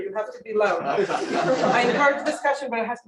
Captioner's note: laughter